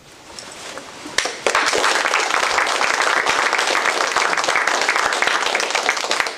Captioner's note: applause